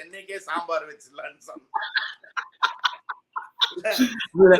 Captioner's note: laughs